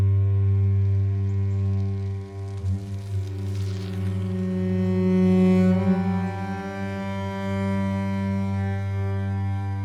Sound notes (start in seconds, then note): 0.8 bike wheels spinning; 5.0 slow somber music